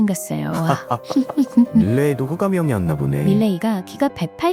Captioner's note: laughs